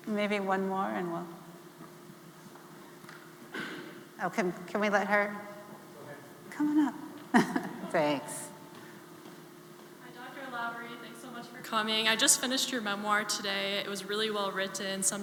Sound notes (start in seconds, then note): 7.3 chuckling